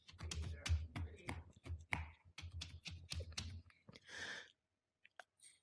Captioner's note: tapping